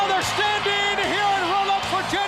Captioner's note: crowd cheering